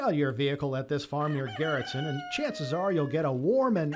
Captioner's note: rooster crowing